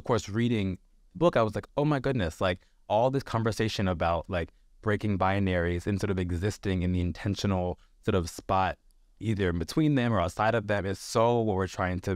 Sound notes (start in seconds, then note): none